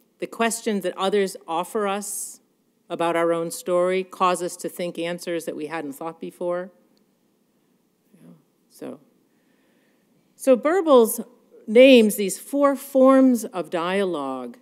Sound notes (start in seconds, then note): none